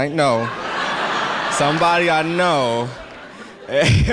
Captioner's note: laughter